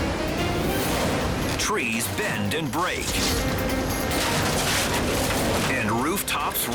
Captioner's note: wood crunches